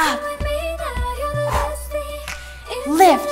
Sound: exhales

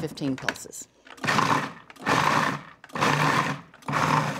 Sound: processor pulsing

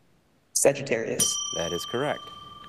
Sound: bell ringing

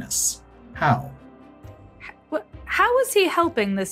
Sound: stammers

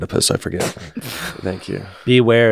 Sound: laughs

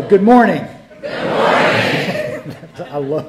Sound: laughter; crowd

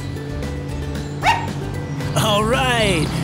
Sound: Lizzy barks

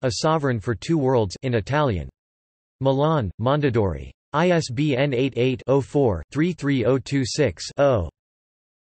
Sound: in Italian

